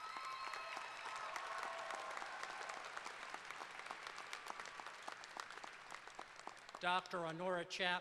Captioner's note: applause